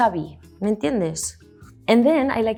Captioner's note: speaks in Spanish